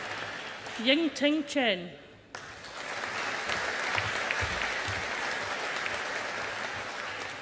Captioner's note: audience applauding